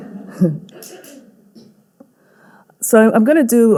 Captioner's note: audience laughing